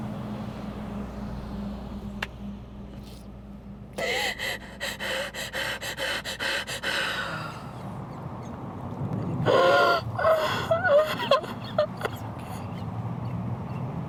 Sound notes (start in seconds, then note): 5.5 sniffling, crying; 12.0 crying continues